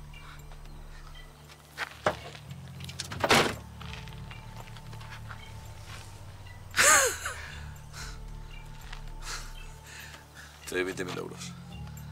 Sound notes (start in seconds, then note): 3.0 door closes; 6.7 laughs